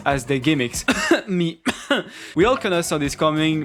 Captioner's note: coughs